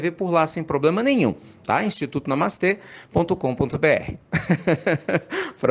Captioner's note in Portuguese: Risos